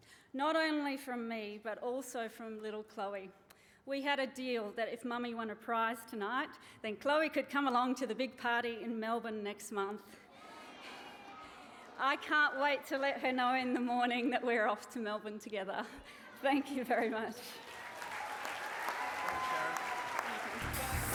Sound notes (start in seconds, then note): 10.3 cheering; 16.0 laughs; 17.4 cheering and applause